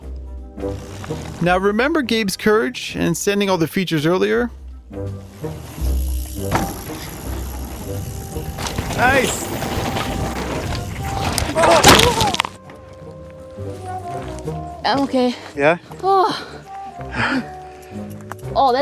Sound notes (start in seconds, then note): 11.5 gasps; 13.1 bike crashes; 17.0 sighs